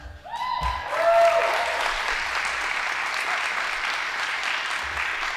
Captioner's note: audience applauding